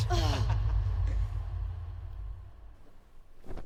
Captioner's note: laughter fades